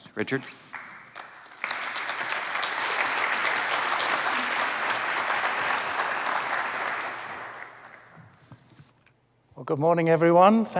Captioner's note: applause